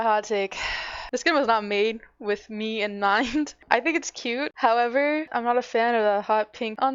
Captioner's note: sigh